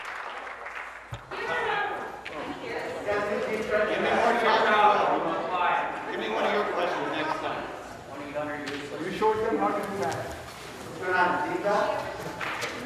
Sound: some Applause

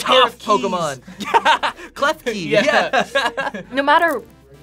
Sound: laughs

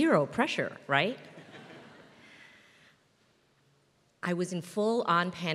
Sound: laugh

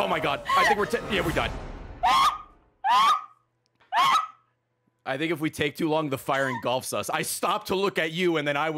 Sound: laughs

